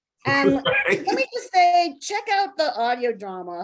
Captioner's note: chuckling